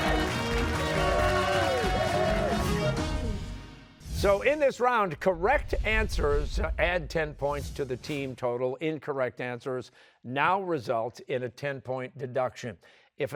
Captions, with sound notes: (cheers and applause) So in this round, correct answers add ten points to the team total. Incorrect answers now result in a ten-point deduction.